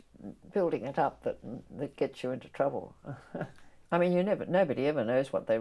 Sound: laughs

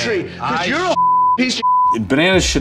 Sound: beeps

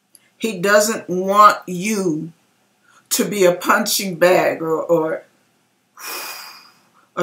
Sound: whew!

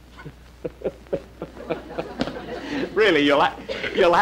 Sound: Jack Laughing

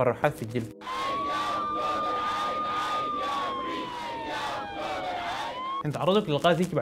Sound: protesters sounds

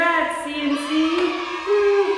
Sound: children cheering

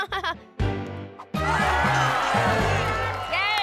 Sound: chuckles nervously; crowd cheers

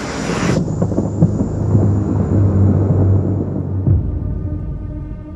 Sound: thunder rumbles

